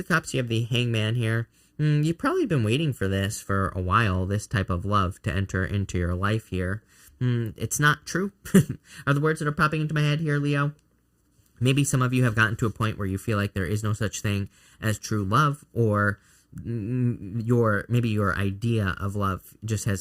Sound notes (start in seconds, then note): 8.4 chuckling